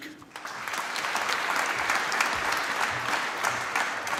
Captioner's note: applause